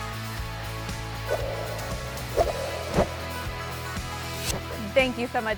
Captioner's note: swiping sound